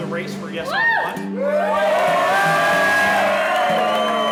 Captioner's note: crowd cheering loudly